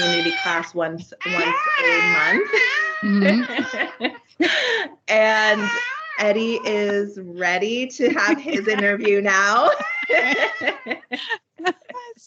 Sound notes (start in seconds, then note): 1.2 baby bables; 3.9 both giggling; 8.1 both laughing